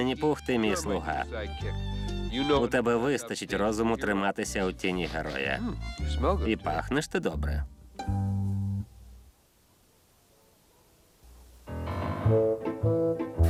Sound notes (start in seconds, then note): none